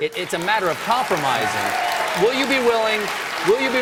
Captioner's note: applause